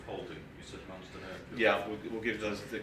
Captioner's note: speaking faintly